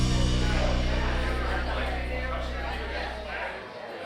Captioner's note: patrons chatting